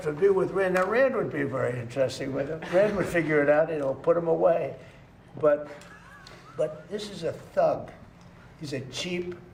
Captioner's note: laughter